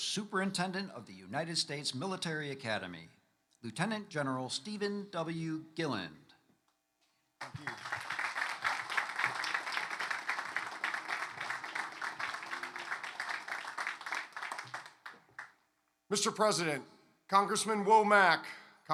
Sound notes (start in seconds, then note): 7.4 applause